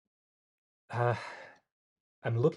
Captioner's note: sighs